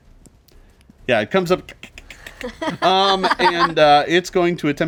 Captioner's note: laughing; clicks